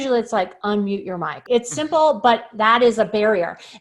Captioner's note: laughs